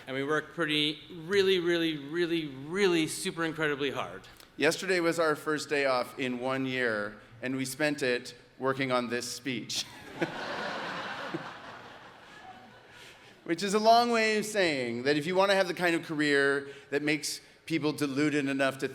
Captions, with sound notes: And we work pretty, really, really, really, really, super, incredibly hard. - Yesterday was our first day off in one year and we spent it working on this speech. (audience laughs) Which is a long way of saying that if you want to have the kind of career that makes people deluded enough